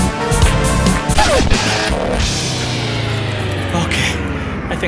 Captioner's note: upbeat rock music; record scratching